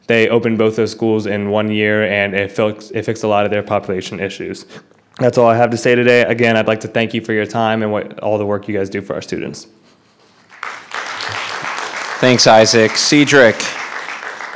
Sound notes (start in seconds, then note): 10.4 audience applauding